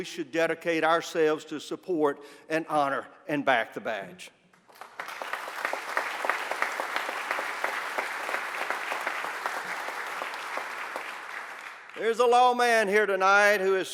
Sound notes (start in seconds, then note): 7.2 applause